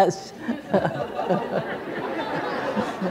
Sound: laughter

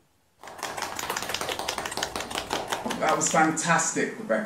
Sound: participant clapping

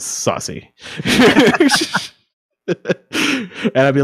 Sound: laughing

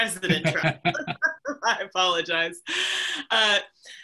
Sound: laughs

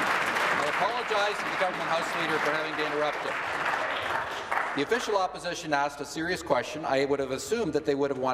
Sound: applause

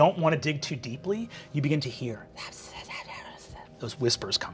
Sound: creepy whispering

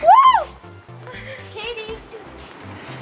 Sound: child exclaims

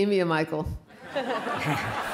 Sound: laughter

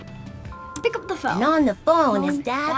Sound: phone rings

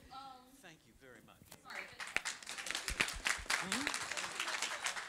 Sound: audience applauds

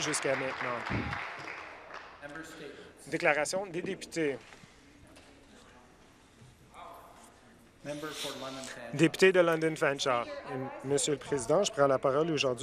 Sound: applause

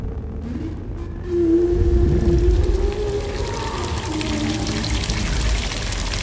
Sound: water starts running in the background

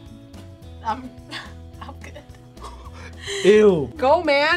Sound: laughs

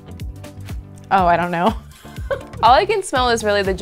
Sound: laughing

